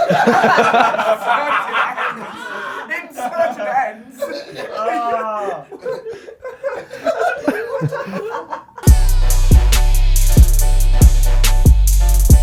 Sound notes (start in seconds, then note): 0.2 audience laughs; 0.2 laughs; 6.0 audience laughs; 6.0 laughs; 8.8 upbeat music